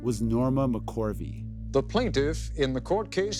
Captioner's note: soundbite of archived recording